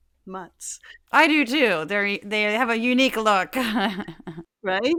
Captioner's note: laugh